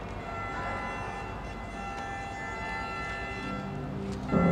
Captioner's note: car horn blaring